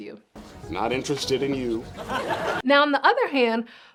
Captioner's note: audience laughs